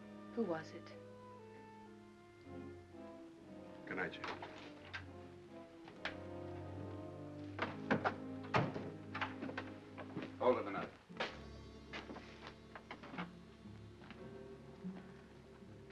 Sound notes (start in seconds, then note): 4.2 door opens; 8.4 door closes; 13.0 ominous music